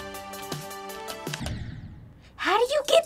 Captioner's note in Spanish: explosion